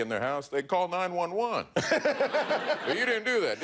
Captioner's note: laughter